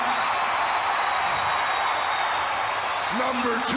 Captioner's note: audience cheering